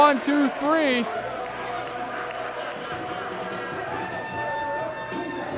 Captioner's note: crowd cheering